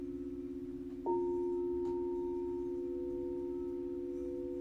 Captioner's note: bell dings